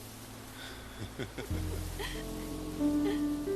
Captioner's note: chaz and madelaine laughing